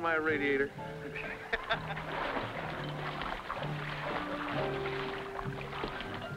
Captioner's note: upbeat music; water splashing